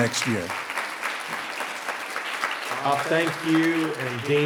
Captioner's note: audience applauding